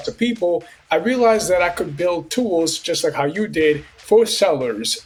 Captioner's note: dramatic sound